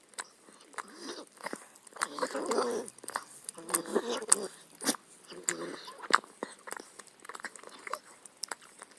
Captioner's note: licking sounds